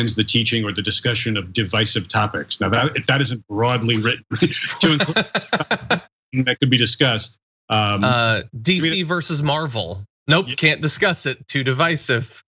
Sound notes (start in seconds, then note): 3.8 laugh